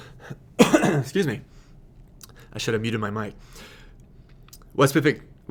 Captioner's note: coughing